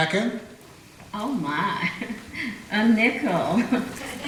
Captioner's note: giggles